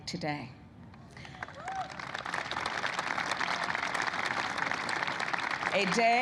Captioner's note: applause